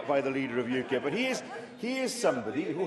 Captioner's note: laughter